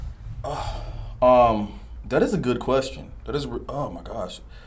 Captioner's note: sighs